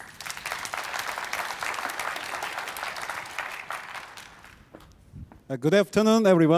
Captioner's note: applause